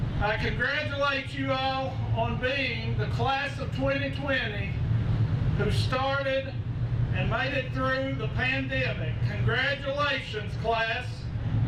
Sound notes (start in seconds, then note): none